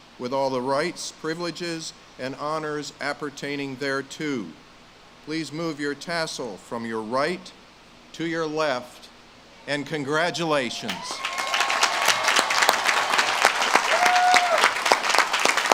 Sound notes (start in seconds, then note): 10.8 audience claps and cheers